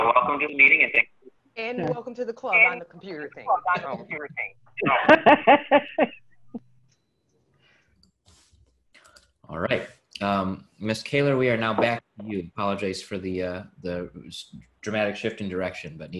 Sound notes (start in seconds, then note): 4.8 laughing